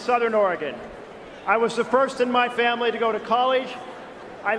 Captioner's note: cheering and applause